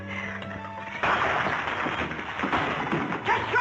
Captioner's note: glass shattering